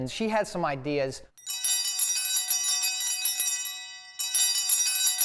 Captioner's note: bells ringing